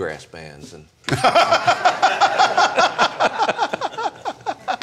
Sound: laughing

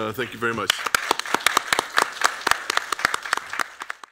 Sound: applause

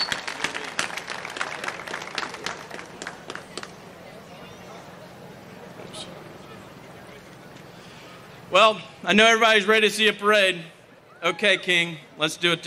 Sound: applause

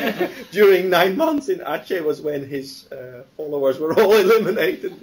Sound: laughter; laughs

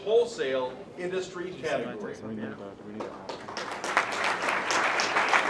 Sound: applause

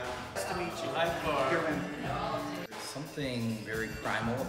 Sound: chattering

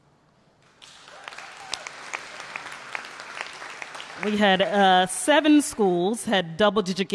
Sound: applause

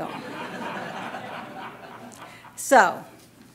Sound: laughter

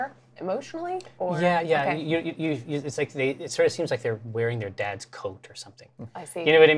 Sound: stutters

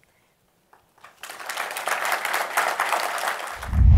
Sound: applause

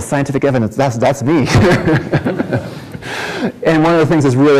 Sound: laughter

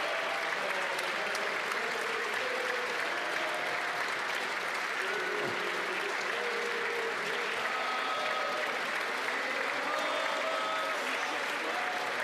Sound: applause

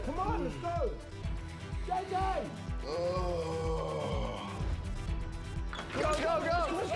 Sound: sighs

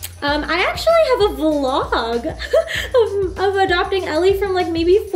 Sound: laughs

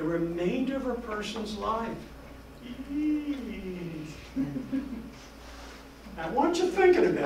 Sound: spooky moan

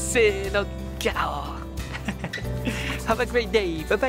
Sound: lion roar in Japanese

